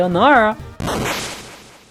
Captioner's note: mediocre explosion